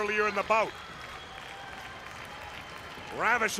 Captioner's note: crowd cheering